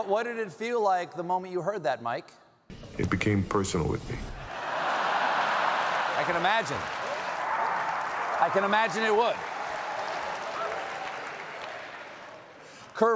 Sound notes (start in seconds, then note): 4.5 laughter